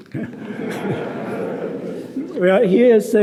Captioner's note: audience laughing